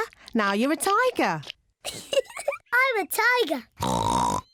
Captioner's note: giggles; oinks